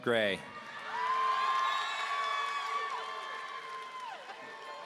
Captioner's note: audience cheering